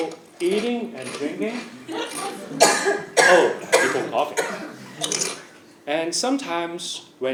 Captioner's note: laugh; cough